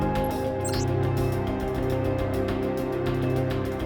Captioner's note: computer chimes